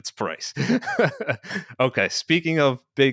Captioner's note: chuckling